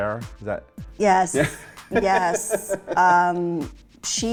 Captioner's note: laughs